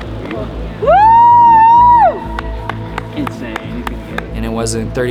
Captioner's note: whooping